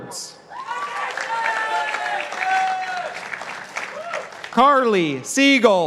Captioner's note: participants applauding